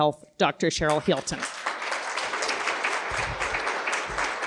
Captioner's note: applause